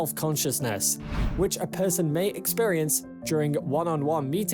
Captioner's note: screen swishes